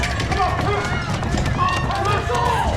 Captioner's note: mob shouting; mob screaming and baying